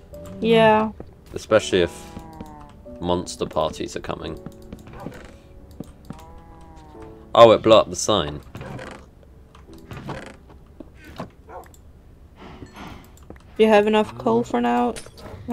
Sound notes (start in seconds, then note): 6.1 cow moos but is caught by auto captions; 11.4 woof